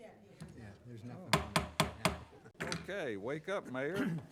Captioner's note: gavel pounding